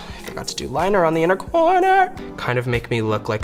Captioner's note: singsong